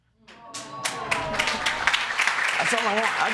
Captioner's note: audience applauding